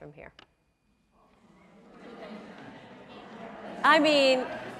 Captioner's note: crowd murmuring